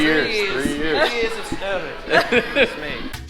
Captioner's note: laughs